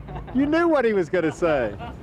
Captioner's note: laughing